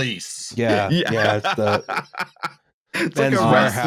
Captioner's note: laughs